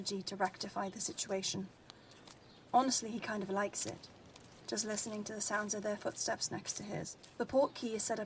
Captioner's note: footsteps